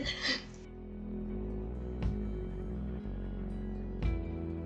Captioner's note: laughs